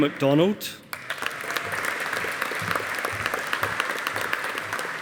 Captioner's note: audience applauding